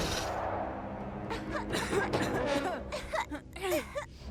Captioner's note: snorts; coughing